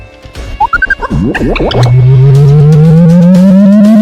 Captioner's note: computer booping